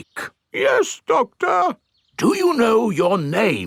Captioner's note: in teddy's voice; in normal voice